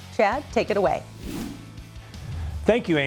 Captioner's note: air whooshes